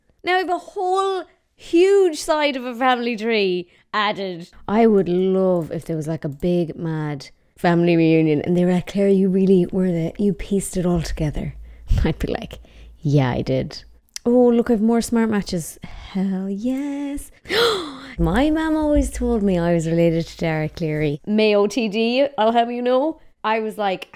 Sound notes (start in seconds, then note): 17.4 gasping